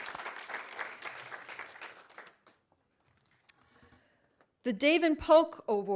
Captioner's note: audience applauding